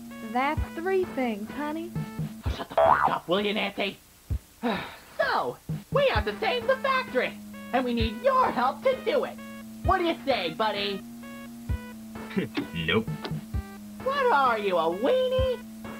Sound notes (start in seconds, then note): 2.5 boing; 4.6 sigh